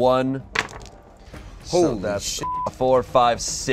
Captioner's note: beep